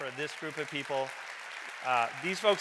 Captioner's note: audience clapping